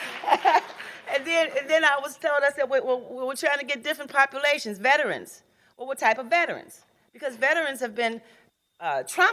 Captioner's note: laughing